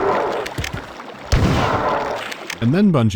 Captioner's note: POW-kr-krk